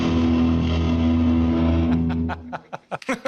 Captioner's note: laughter